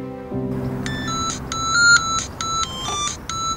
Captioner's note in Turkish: Telefon çalıyor